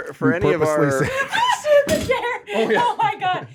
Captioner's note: laughing